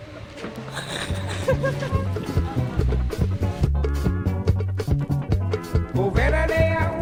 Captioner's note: laughs